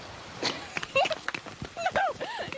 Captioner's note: giggling